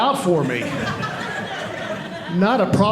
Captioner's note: audience laughing